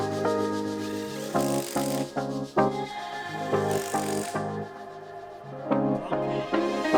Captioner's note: upbeat music; tool buzzing